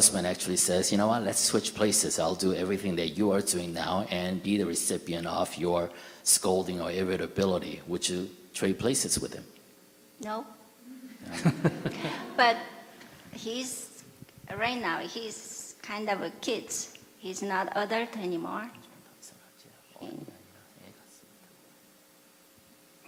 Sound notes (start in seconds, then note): 11.2 /Audience Laughter